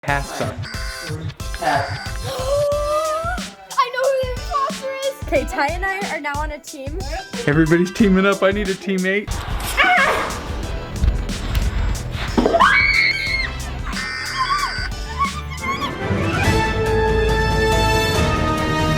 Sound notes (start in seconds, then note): 0.3 alarm beeping; 1.9 gasping; 9.3 exclaiming; 12.4 screaming; 14.5 alarm beeping; 16.4 intro music